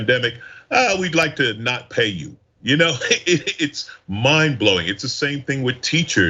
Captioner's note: laugh